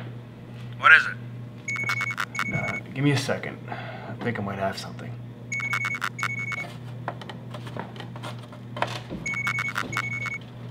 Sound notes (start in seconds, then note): 1.6 device beeps; 5.5 device beeps; 9.2 device beeps